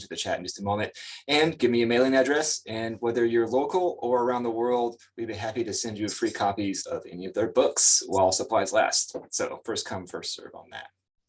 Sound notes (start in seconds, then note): none